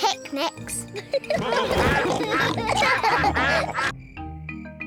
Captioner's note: all giggle; quacking